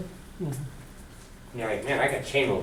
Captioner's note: voiceover